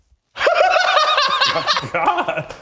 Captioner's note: laughing